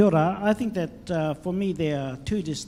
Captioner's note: speaks in foreign language